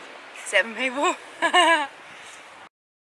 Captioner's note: laughing